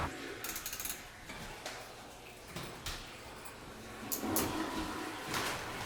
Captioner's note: handcuffs clicking